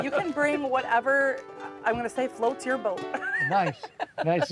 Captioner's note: laughs